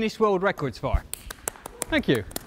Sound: clapping

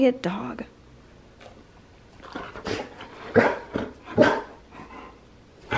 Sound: dog snarls and barks

